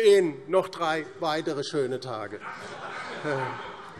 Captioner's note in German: Heiterkeit Freie Demokraten